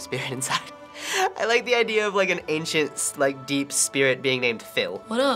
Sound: laughs

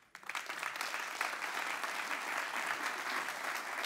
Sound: applause

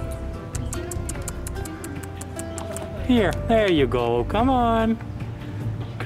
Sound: tongue clicks

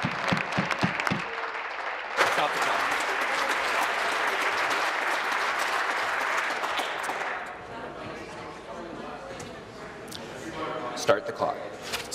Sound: applause

